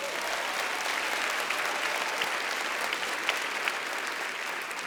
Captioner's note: audience applauds